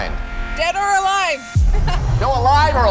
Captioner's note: laughs